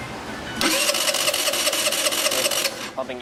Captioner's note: engine trying to start